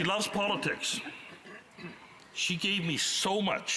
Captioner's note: laughter